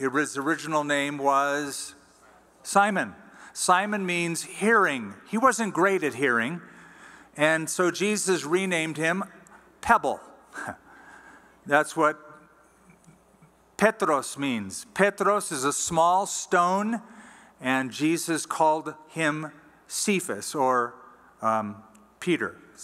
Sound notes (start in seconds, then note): 12.9 non-english